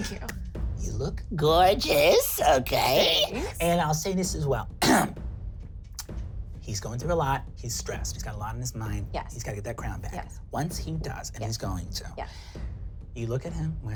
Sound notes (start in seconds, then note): 4.8 throat clearing